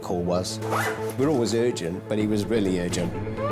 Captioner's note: zipper hisses